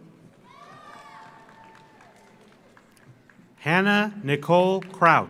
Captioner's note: audience applauds; audience cheers